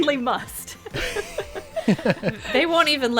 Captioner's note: laughing